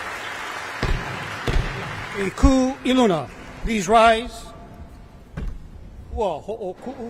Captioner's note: audience applause; gavel bangs twice